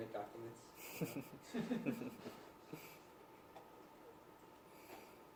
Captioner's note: laughing